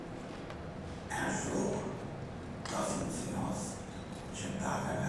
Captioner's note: speaking french